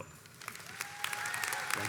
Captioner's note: audience applauds